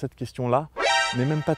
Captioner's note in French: bruit révélation Metar Gear Solid